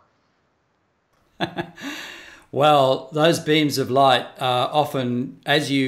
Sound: laughs

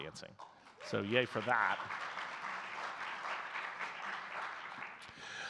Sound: audience clapping

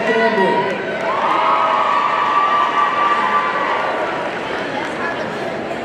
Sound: audience cheering

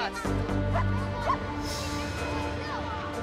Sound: dog barking

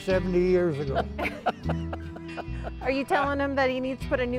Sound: laughing

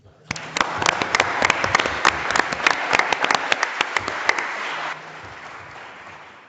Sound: audience and board members applauding

